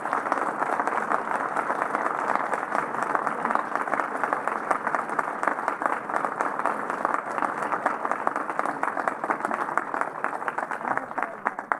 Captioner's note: applause